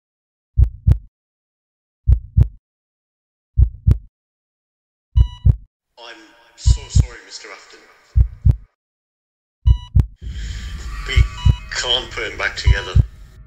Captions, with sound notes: [heartbeat] [heart monitor beeps] I'm so sorry Mr Afton We can't put him back together